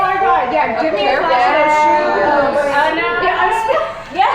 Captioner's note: women murmuring